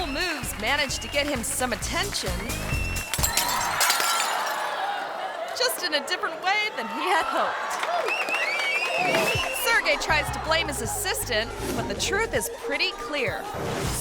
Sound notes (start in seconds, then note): 3.0 glass shattering; 4.5 audience screaming; 8.0 audience applauding